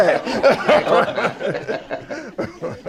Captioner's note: laughter